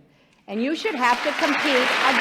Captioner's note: applause